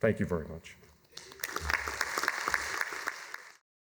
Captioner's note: applause